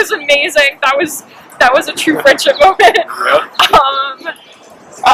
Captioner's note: laughs